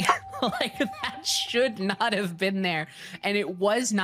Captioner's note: laughing